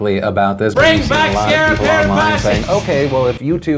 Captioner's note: laugh